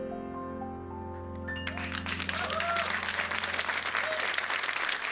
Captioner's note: applause